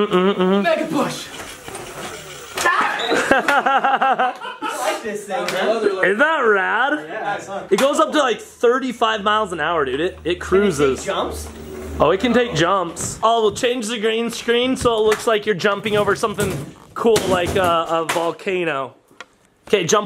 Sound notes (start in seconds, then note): 3.5 men laugh